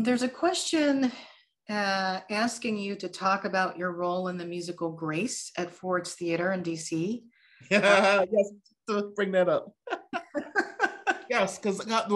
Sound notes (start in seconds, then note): 9.8 laughing